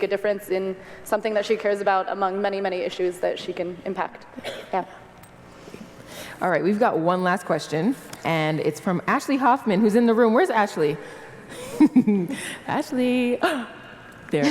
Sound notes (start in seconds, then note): 11.5 laugh